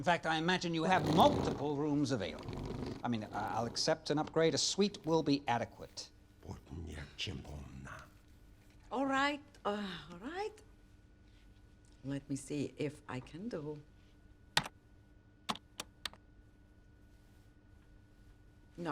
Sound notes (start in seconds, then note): 6.6 man speaking in unknown foreign language; 15.5 keyboard clicks